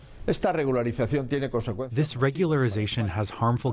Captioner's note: through translator